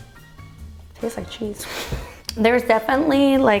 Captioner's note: chuckles